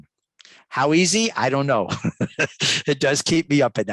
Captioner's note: laughs